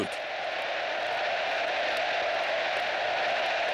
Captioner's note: crowd cheering